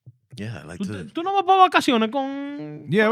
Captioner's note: speaking Foreign Language